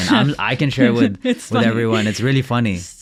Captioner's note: laughing